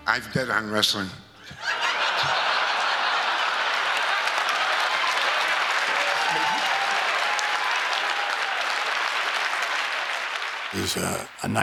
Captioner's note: laugh